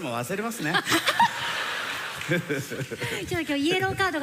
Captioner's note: laughter